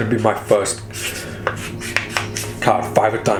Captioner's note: paper rattling